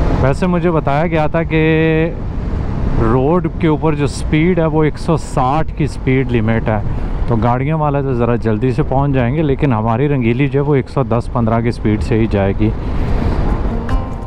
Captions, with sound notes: I've been told that the speed limit on the road here is 160 km/h. That's a good news for someone traveling in a car. However, our Rangeeli (motorcycle) will go around 110 km/h.